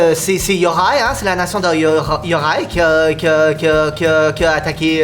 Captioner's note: stutters